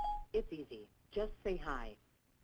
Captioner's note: voiceover